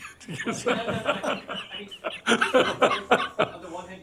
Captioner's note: laughter